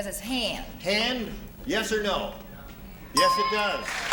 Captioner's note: ding